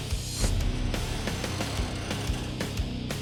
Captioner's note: creaking